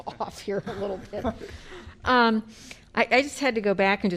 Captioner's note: laughter